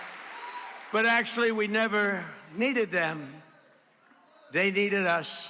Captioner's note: cheers